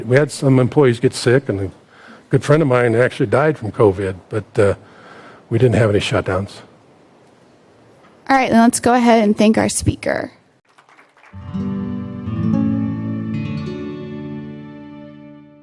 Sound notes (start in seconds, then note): 10.6 audience applauds; 11.3 enlightening music